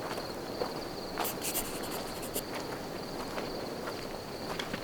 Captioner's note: pencil scribbling